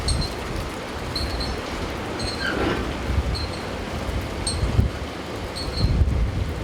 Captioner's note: metal clanking